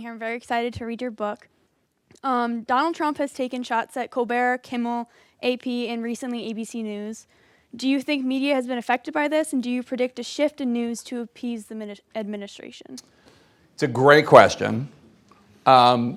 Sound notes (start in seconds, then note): none